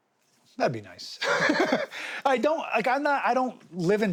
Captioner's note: laughs